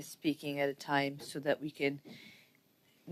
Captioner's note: speaking French